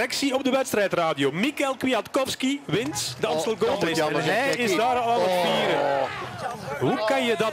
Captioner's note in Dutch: publiek: oooooh